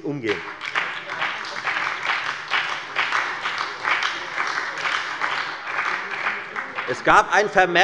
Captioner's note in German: Beifall bei der FDP und der SPD